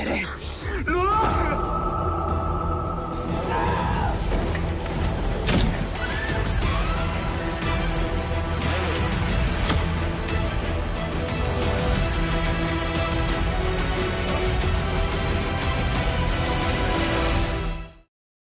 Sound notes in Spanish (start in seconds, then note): 6.0 Gritos; 6.1 Estruendo